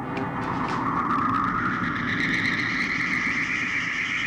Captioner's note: whooshing